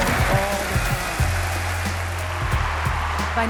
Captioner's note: applause